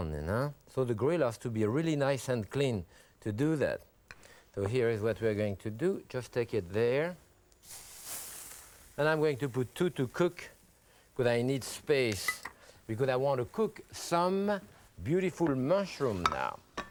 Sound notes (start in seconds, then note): 7.9 grill sizzles